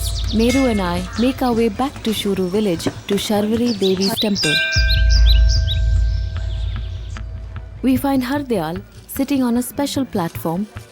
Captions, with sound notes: Meru and I make our way back to Shuru village to Sharvari Devi’s temple. (bell jingles) (moves into birds chirping) We find Hardayal sitting on a special platform